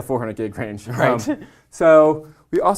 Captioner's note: laugh